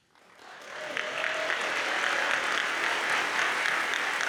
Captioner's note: audience applauds